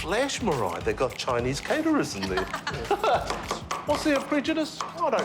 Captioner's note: both laugh